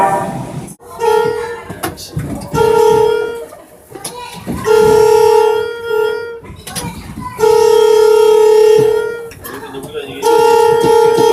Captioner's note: air Horn